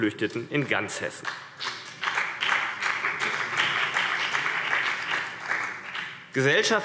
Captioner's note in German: Beifall BÜNDNIS 90/DIE GRÜNEN